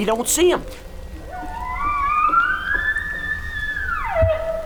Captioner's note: bull bugling